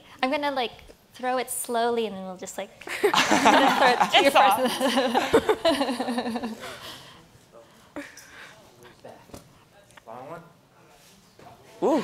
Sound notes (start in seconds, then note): 6.2 laughs